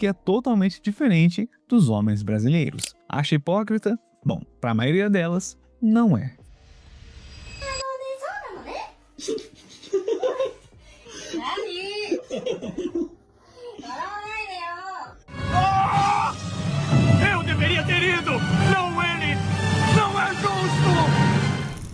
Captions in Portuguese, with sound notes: totalmente diferente dos homens brasileiros. Acha hipócrita? Bom, pra maioria delas não é. [risadas] [grito] Ah, eu deveria ter ido. Não, ele não é justo.